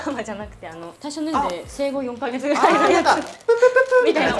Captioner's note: laughs